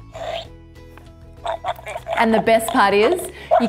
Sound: puppy munching

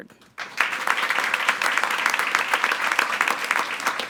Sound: attendees applauding

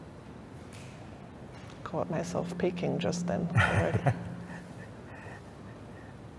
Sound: laughs

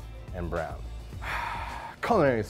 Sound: sighs

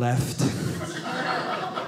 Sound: audience laughing

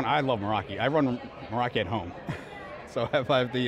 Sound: laughing

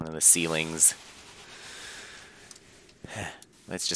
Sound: breathing

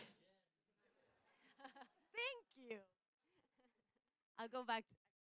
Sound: chuckling

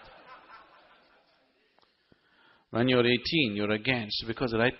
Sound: laughs

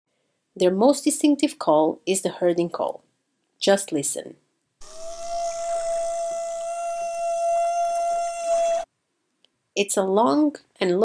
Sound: whale calls

